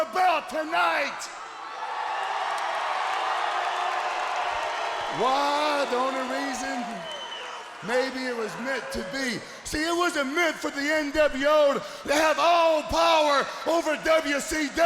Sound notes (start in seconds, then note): 2.4 crowd cheering